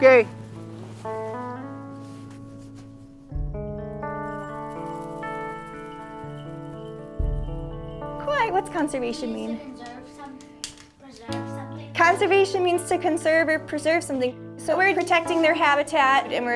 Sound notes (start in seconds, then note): 0.3 light music plays; 10.1 child speaks